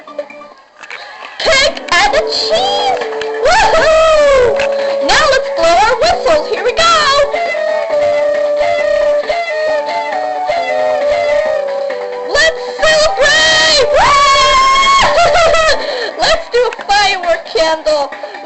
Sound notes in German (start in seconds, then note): 3.4 Alle jubeln; 7.3 Trillerpfeifen; 12.8 Alle jubeln